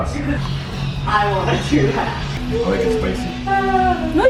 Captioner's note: laughing